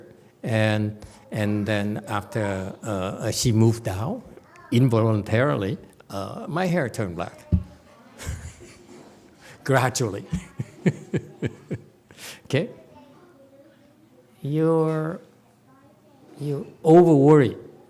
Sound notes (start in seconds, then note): 10.2 laughs